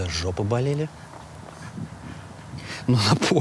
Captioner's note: Dud laughs silently